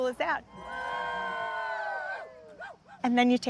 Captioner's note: bikers cheering